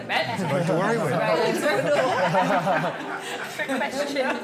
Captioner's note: guests laughing; talking in unison